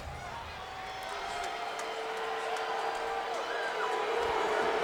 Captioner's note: crowd booing